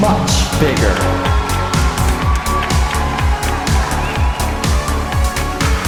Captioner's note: applause